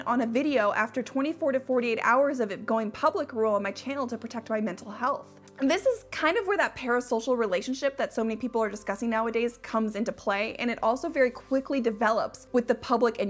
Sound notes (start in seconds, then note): none